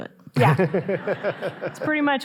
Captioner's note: audience laughing